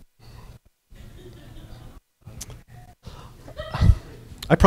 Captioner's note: bitter laughter